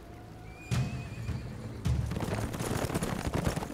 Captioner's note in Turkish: At kişniyor; Gerilim müziği